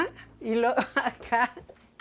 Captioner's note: laughs